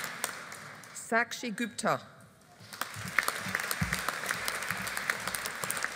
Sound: audience applauding

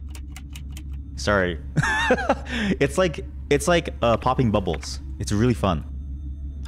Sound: laughs

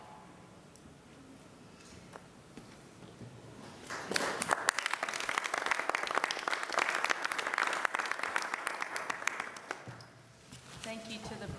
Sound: applause

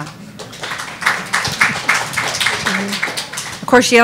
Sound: audience applauding

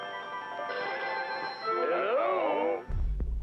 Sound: phones ringing

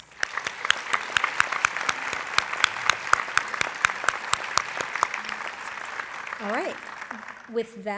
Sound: applause

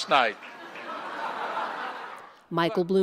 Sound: laughter

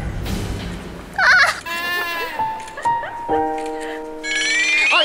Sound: the sound of screaming while taking a picture/ Training hard alone

